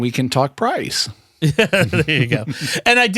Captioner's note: laughter